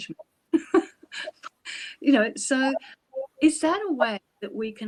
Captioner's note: laughs